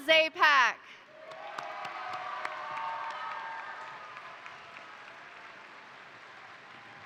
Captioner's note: crowd applauding; crowd cheering